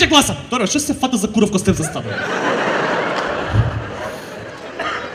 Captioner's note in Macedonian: смеа